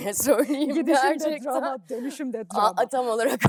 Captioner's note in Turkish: kahkaha